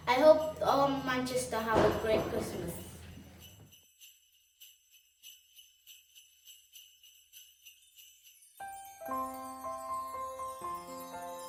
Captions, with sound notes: I hope all Manchester have a great Christmas. (bells chiming) (soft music)